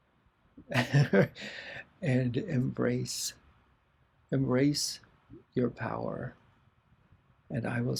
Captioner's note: laughter